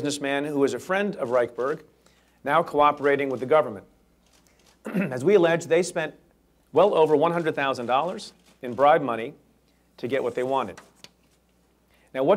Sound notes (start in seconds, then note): 4.8 clears throat